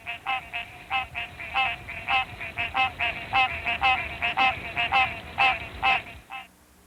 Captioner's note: green treefrog call